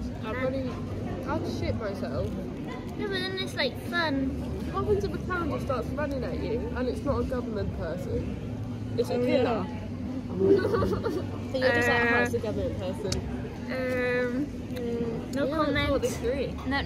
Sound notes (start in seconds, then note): 10.4 laughter